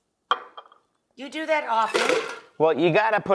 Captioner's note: ice clunking